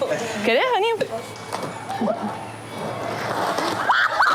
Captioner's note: speaking In Foreign Language